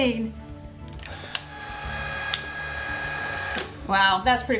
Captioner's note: machine operating